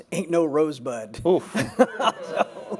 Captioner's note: audience exclaims